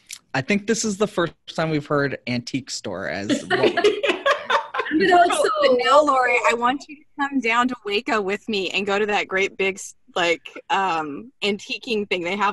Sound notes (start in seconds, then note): 3.2 everyone laughing